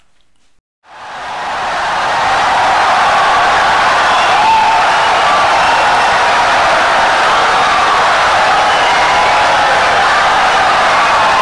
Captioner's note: wild applause and cheering for 17 seconds